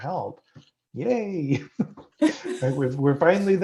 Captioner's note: laugh